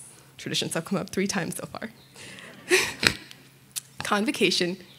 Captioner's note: laughs